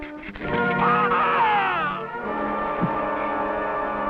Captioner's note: screaming